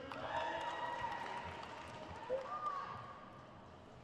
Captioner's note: crowd cheers